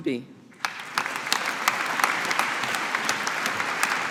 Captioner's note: audience applauding